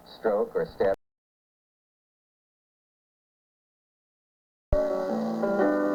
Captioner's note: audio cuts out